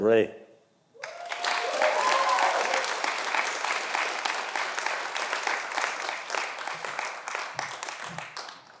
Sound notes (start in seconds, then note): 1.0 audience applauding